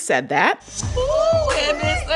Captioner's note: soundbite of tv show, "real housewives of atlanta"